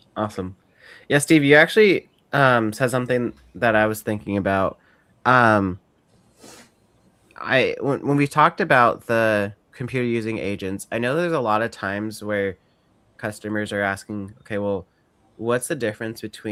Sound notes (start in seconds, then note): none